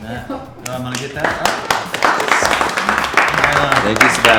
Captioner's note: applause